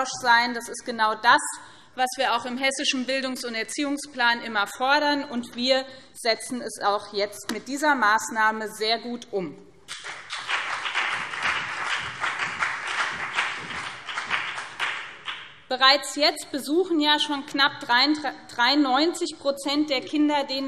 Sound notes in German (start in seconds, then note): 9.8 Beifall BÜNDNIS 90/DIE GRÜNEN und CDU